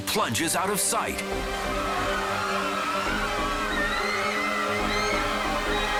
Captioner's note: bystanders clamor